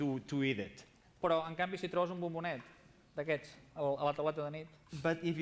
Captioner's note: non-english speech